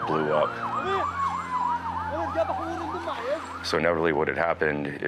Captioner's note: onlooker shouts in foreign language